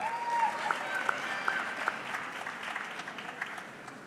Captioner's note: audience clapping